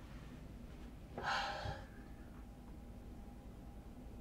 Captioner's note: Claire sighs